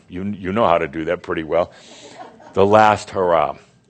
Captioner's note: a few chuckles